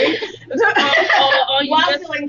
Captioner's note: laughter